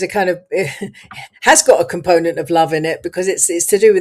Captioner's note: laughs